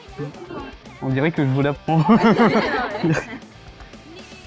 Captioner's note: laugh